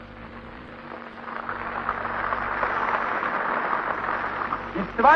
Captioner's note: applause